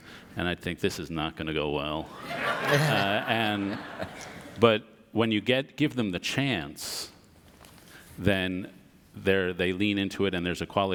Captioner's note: audience laughter